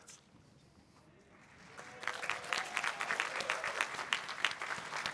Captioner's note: applause and cheering